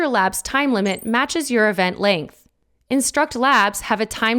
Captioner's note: text twinkling